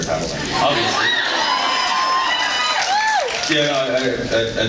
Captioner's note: cheers